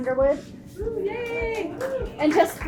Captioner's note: attendees cheering and clapping